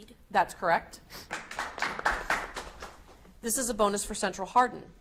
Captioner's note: audience applauds